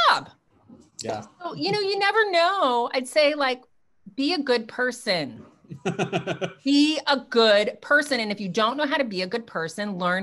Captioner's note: laughs